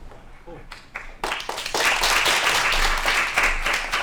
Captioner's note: applause